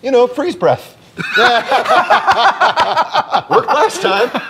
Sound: laughter

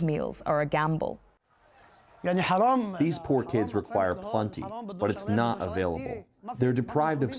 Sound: through translator

